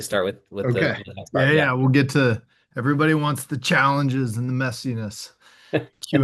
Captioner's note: laughs